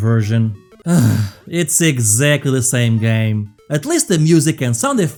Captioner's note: sighs